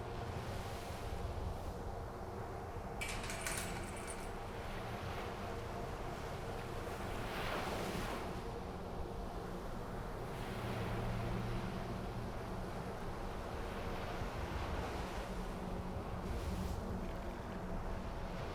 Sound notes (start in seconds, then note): 3.0 lock clanking